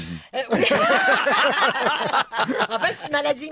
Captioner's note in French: rires